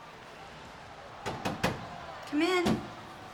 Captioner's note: knuckles tapping